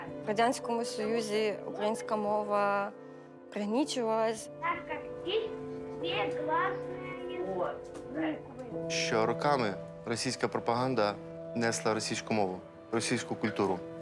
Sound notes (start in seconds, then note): 4.6 children speaking Russian